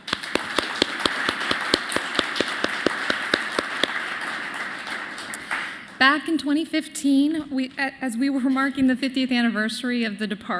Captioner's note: applause